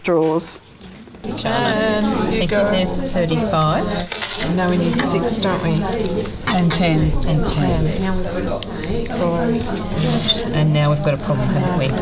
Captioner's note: audience chatter